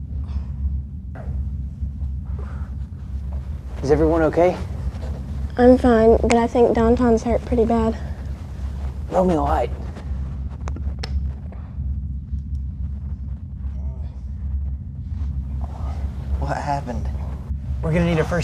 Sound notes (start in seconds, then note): none